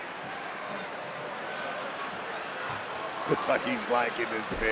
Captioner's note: audience cheering